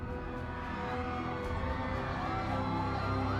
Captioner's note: crowd cheering